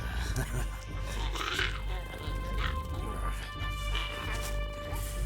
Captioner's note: laughs; Giree grumbles